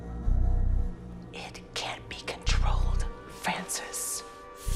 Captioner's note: soft voice